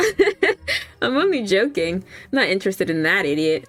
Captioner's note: laughs